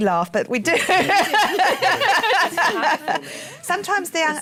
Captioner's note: laughter